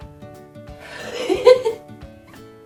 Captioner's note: nervous laugh